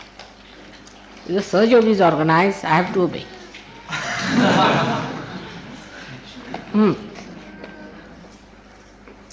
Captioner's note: laughter